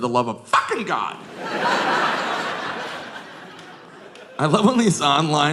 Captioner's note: audience laughing